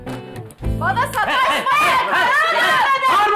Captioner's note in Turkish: Bağrışmalar